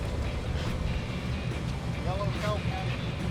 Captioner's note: reel clicking